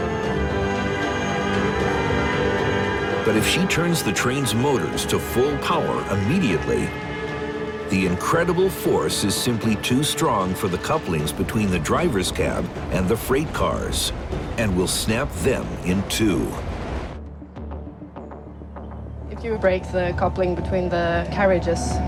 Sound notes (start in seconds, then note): 1.1 train horn blares